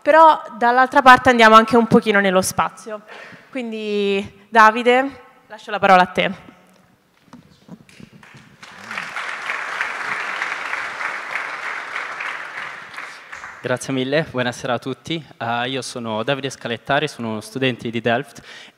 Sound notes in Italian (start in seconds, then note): 7.9 Applauso